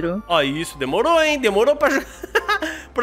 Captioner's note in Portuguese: risos